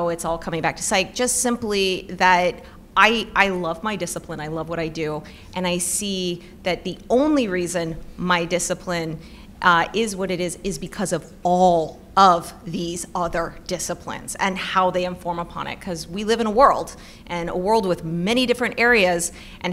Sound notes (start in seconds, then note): none